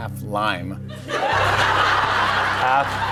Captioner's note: laughter